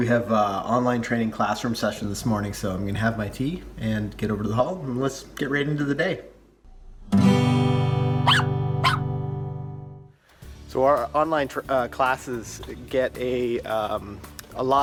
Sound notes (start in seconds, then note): 8.2 dog bark